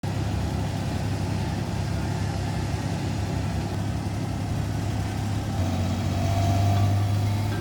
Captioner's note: engine rumbling